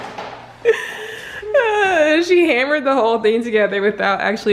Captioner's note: laughs